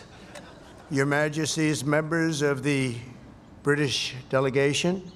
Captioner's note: laughter